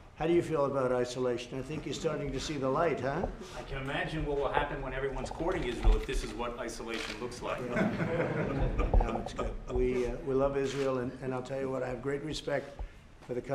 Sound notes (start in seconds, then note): 7.6 laughter